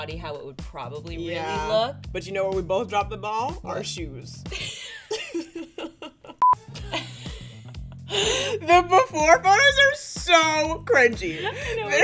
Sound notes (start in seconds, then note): 4.5 both laughing; 6.4 beep; 6.5 both laughing